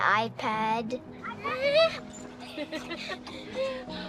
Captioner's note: giggling